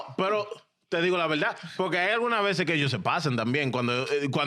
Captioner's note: speaking In Foreign Language